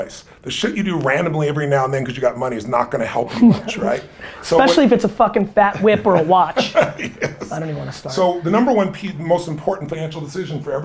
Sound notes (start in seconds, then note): 5.6 laughs